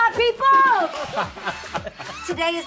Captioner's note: laughing